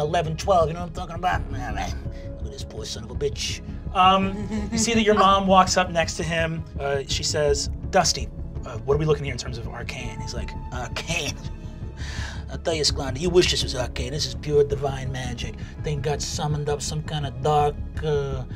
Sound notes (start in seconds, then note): 4.2 giggling; 11.3 scoffing